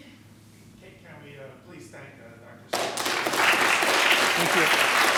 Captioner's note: applause